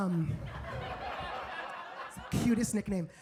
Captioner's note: audience laughs